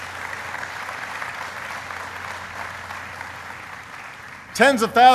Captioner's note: applause